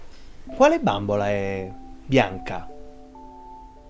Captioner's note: speaking in foreign language